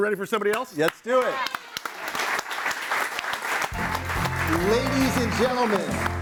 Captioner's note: audience applauds